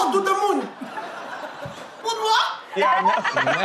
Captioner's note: audience laughs